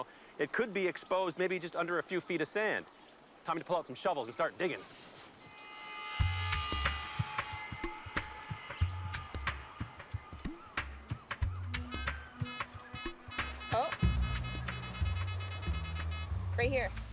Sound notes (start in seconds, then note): 11.8 beeping; 14.9 beeping intensifies